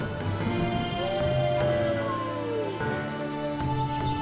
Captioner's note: wolf Howls